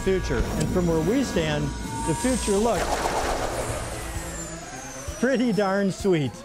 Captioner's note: laser firing